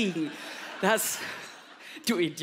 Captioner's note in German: Lachen